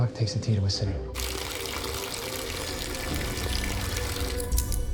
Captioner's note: water running